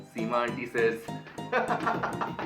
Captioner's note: Shady laughs at his own joke